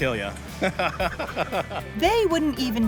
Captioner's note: laughing